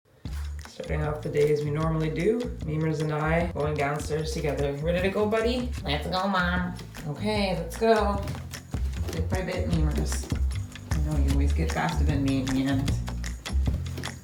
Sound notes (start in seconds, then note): 7.1 normal voice; 13.4 upbeat music